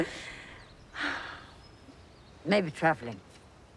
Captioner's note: sighs